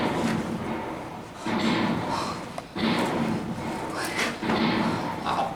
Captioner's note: Le Bret whispering under cannonade